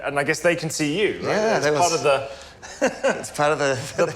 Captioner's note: laughs